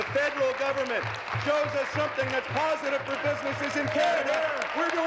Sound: applause

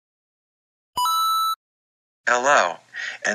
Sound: coin Sound effect

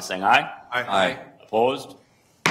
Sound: multiple voices

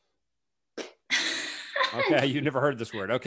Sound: chuckles; laughs

